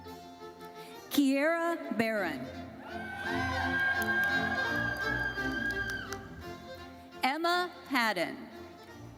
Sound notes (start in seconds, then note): 2.8 audience cheering and applauding